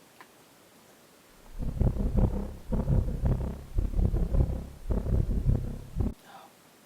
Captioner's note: A two-hearted heartbeat